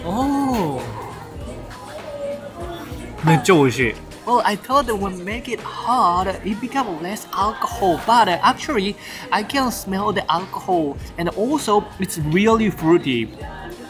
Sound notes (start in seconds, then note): none